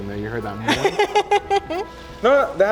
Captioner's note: laughs; speaking Spanish